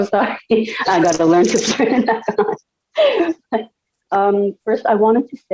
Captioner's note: laughing